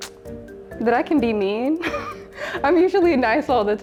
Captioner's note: chuckles